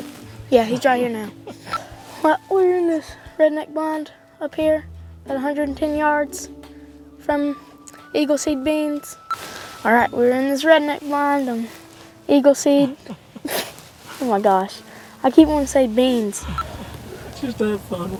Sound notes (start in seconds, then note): 12.7 laughter